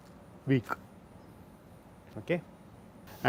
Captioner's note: shocks